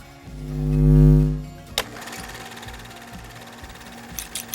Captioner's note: upbeat music continues; logo whooshing